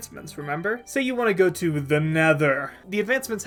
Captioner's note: scary voice